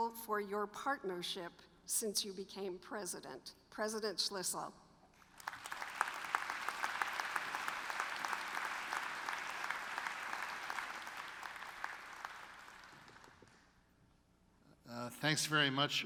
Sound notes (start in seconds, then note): 5.2 applause